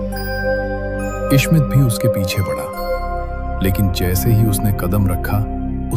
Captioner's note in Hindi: घंटी की आवाज़